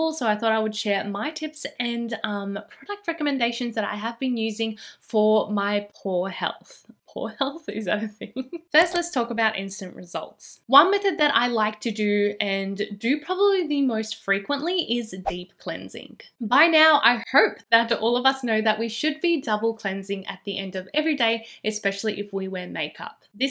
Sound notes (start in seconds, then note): 8.1 cute giggle